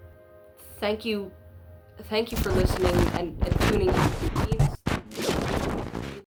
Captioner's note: glitchy noises drowns out the Speaker